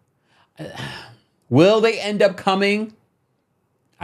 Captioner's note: sighs